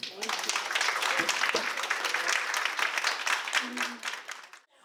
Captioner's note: audience applause